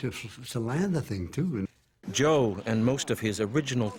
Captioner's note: voiceover